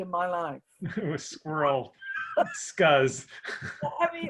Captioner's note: laughs